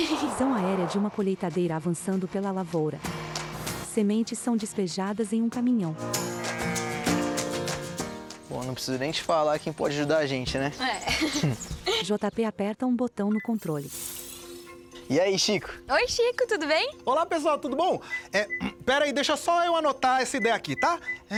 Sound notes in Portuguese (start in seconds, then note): 3.8 Ruídos da natureza